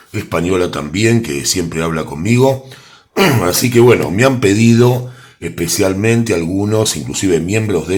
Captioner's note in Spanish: carraspeo